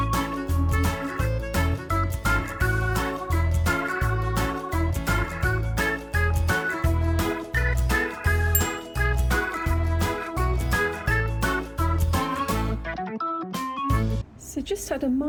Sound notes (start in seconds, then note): 8.5 ding